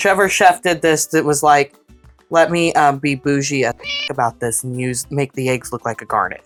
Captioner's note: meow